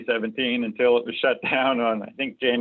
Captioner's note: laughs